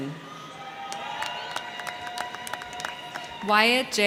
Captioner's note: crowd cheering; crowd clapping